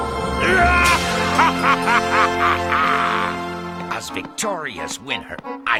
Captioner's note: laughing